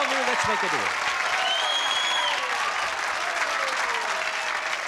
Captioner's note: cheering